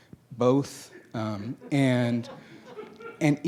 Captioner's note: laughing